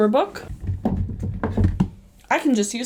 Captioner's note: thudding